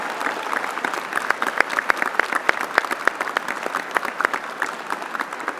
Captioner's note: applause